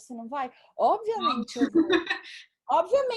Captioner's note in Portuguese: risos